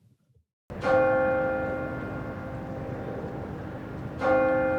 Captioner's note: bell clanging